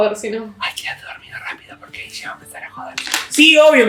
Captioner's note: whisper